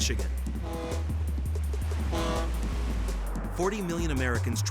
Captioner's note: ship horn honking